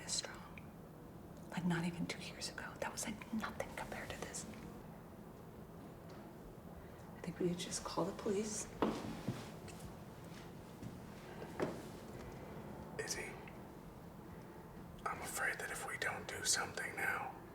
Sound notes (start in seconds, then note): 3.9 whispers